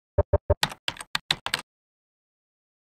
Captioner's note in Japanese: タイピング